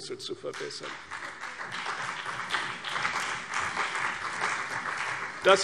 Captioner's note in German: Beifall CDU und BÜNDNIS 90/DIE GRÜNEN